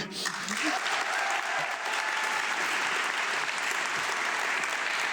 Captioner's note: audience clapping